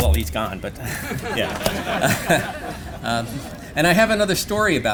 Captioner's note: laughter